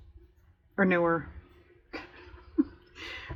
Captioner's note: laughs